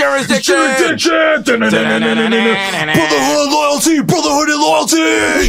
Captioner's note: air guitar sounds